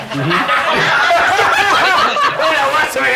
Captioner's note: laughs